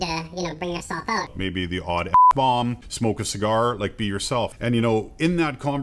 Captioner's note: beep